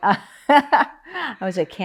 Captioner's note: laughs